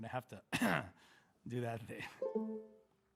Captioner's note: clears throat